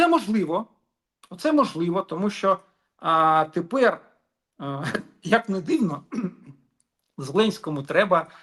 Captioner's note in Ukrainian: прочищення горла